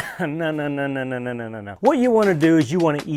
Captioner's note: laughs